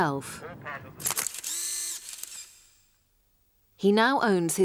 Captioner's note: camera shutter clicking